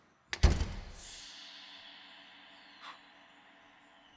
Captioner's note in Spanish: la puerta se cierra